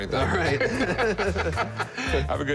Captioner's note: laughter